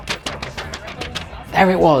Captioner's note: paper rustling